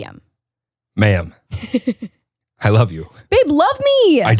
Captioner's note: chuckles